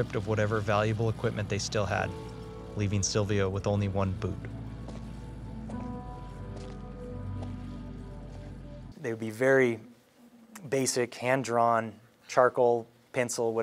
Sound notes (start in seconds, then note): 5.4 gravel crunching